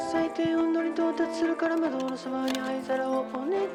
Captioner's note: climbing gear, ice tools scraping